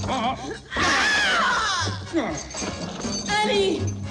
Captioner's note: screaming